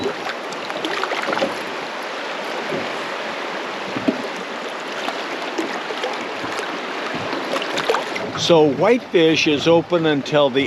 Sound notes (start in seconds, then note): 3.9 fish splashing; 4.4 water flowing